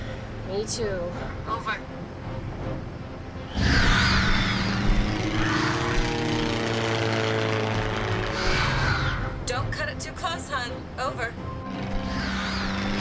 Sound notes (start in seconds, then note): 3.5 creatures screeching; 4.0 dramatic music